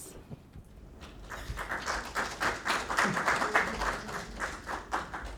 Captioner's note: audience clapping